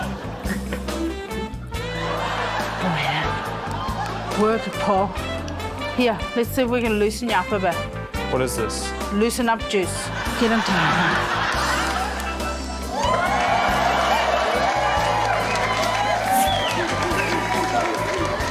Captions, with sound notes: (SULTRY MUSIC) (LAUGHTER) Oh yeah. Work it, Paul. Here, let's see if we can loose you up a bit. - What is this? - Loosen-up juice. Get in there. (CHEERING, APPLAUSE)